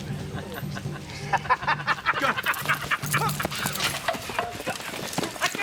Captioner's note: drums playing; laughing